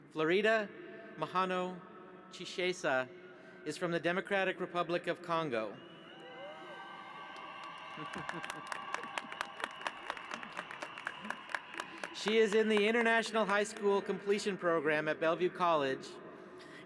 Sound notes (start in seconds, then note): 6.4 applause